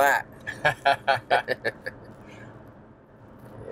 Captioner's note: both laugh